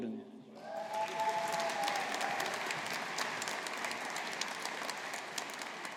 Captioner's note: audience applauding